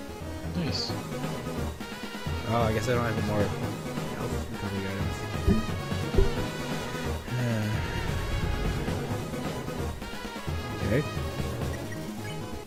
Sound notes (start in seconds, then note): 7.2 concerned noises